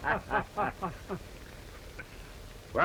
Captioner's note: laughter